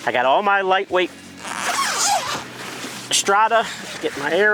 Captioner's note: zipper buzzing